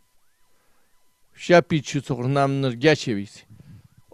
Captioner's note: tibetan